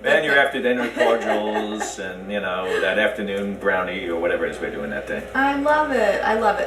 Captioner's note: laughs